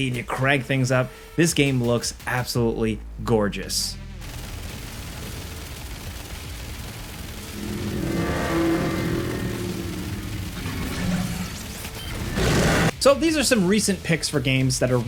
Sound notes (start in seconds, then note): 4.4 gunfire banging; 7.4 enemy growls; 9.7 gunfire banging